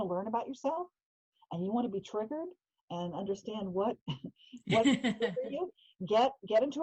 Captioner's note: laughing